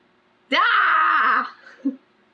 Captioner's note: groans